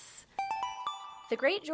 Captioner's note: chime